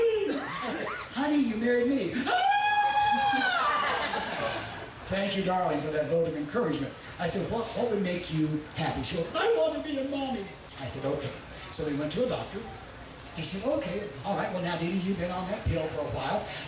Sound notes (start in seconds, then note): 2.2 loudly wailing